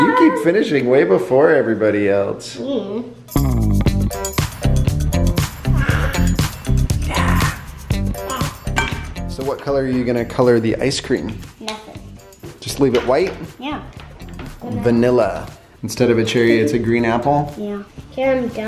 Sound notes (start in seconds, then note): 2.7 groans; 3.3 upbeat music; 5.6 baby growls